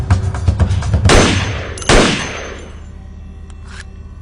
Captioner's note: gun firing